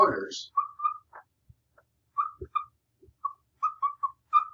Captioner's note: marker squeaking